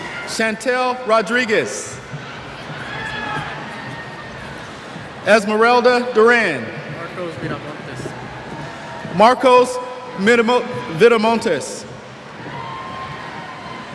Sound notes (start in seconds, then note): 2.7 cheers; 6.3 cheers